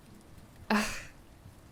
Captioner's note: scoffs